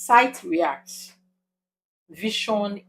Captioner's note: paause